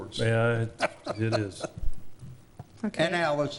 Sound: laughing

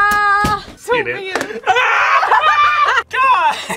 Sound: laughs

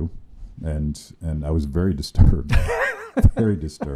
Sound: laughing

